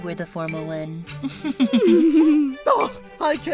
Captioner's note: candle and cabby chuckle